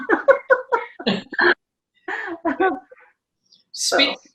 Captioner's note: both laugh